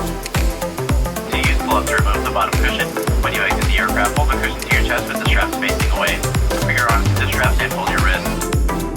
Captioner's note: speaking over the intercom